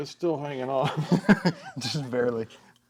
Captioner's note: both laughing